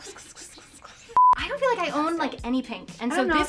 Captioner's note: beep